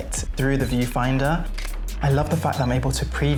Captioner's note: camera shutter clicks